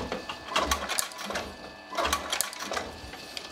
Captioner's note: clacking noise